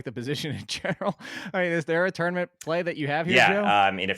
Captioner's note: laughs